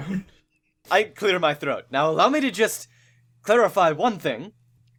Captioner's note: I clear my throat